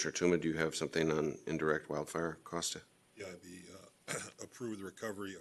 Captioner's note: clears throat